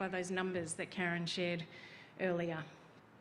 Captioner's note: none